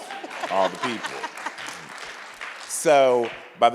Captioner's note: audience applauds; laughs